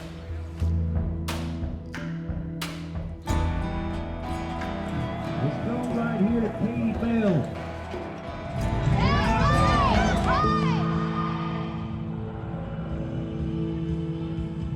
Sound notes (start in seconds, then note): 0.2 gentle reflective music; 9.4 people shouting; 11.2 gentle tense music